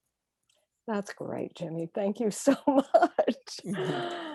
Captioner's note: laughing